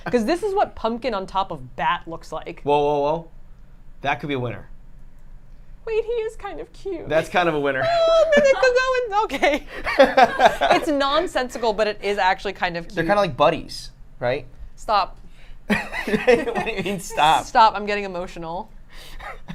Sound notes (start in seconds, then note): 15.7 laughs